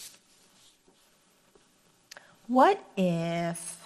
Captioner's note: paper rustles